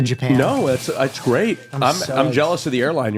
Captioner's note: chortles excitedly